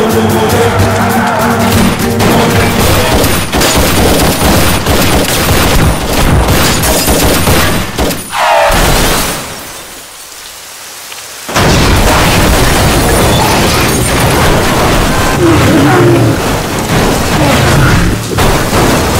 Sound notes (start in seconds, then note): 2.2 gunshot